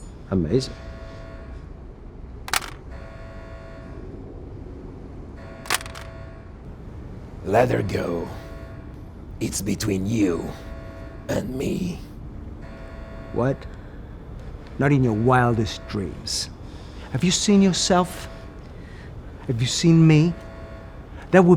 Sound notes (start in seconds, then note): 2.5 alarm blaring